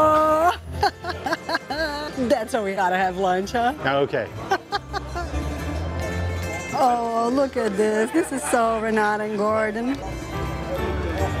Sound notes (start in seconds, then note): 0.3 laughs; 4.4 laughs